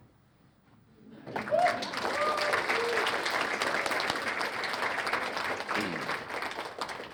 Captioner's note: applause